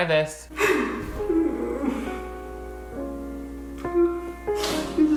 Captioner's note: Shane crying